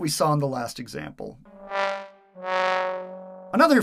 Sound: sad trombone sound

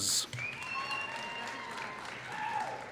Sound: applause

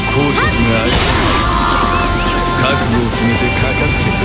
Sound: critted scream

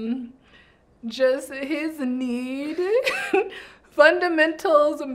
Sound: laughs

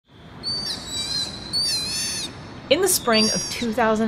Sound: sea otter pup vocalizations

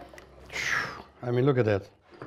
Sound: exhales deeply

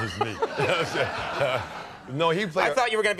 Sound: laughter

